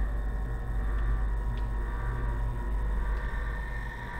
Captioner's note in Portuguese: chiado